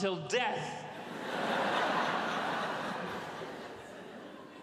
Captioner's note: audience laughs